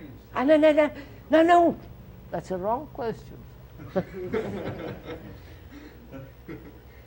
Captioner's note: laughter